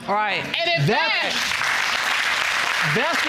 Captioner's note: audience applauds